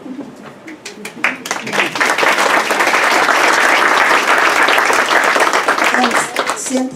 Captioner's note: clapping